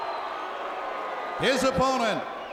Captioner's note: crowd cheering